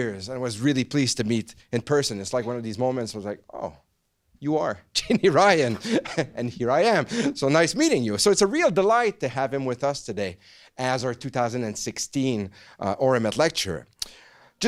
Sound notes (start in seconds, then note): 5.0 laughs